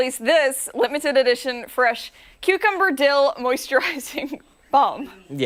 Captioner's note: laughter